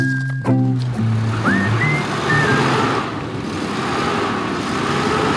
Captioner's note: engine revving